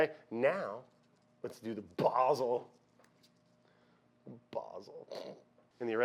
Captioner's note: snorts